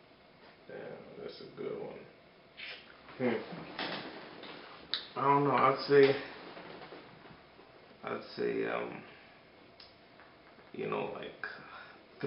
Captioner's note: claps lips